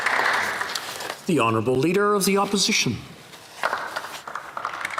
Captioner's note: speaking French